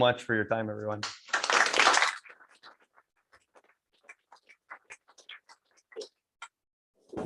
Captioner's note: applause